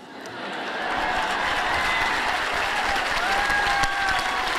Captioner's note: cheers and applause